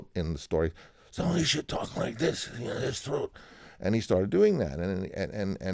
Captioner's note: imitating Brando